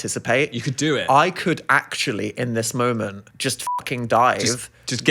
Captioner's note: beep